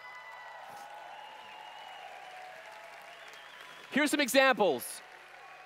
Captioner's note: applause/Cheers